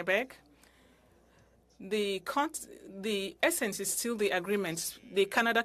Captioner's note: speaking french